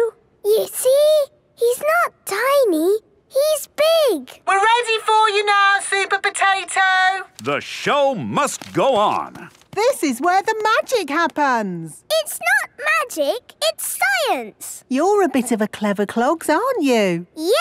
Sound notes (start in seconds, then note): 4.4 through megaphone